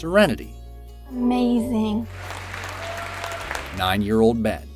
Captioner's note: audience cheering